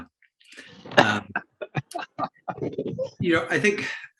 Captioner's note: laughter